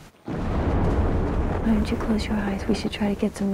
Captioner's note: Thunder Rumbling